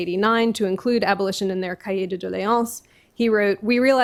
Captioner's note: french